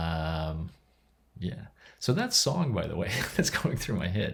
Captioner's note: laughs